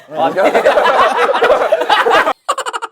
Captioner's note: laughing